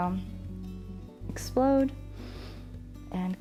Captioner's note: inhales